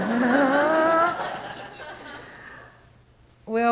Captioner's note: audience laughs